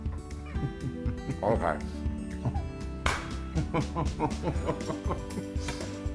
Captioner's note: laugh